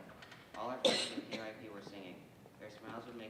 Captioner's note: person coughing drowns out speaker